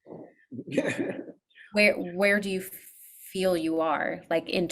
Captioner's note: chuckles